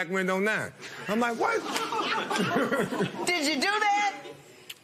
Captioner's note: laughs